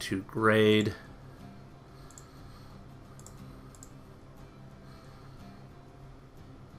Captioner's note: clicking